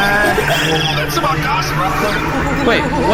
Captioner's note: whispering; bellowing